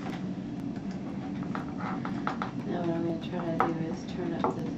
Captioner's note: tapping again